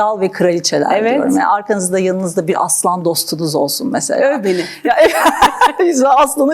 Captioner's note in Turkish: kahkaha